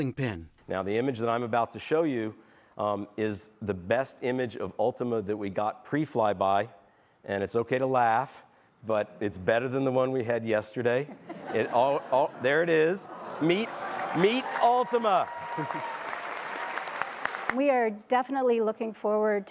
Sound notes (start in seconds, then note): 11.0 laughter; 13.3 cheering and applause